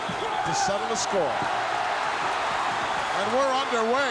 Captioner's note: crowd cheering